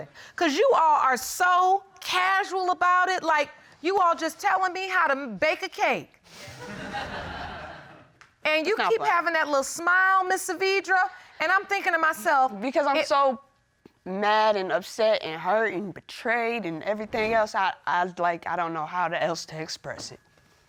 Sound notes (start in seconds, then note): 6.4 audience laughing